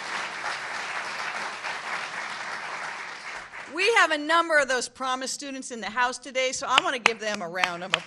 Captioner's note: applause